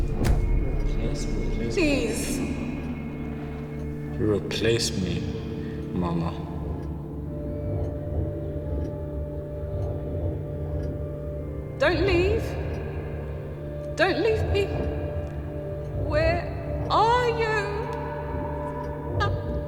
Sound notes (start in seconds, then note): 6.9 brooding music; 6.9 clock ticking